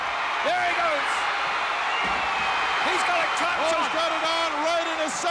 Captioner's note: audience cheering